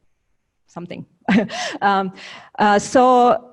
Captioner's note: slight laugh